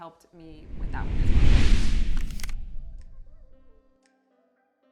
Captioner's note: question whooshes